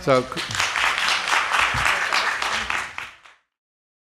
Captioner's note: audience applauding